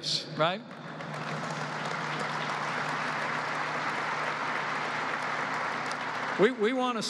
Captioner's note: applause